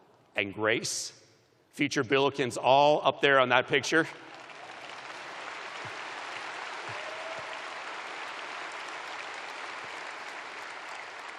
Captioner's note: applause